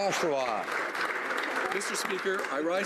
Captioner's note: some Applause